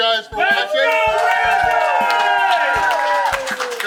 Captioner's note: audience cheering